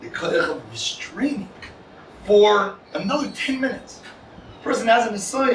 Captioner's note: Hebrew